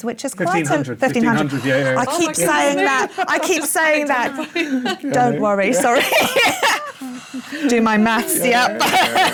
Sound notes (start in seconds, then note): 1.4 gasps; 6.3 laughs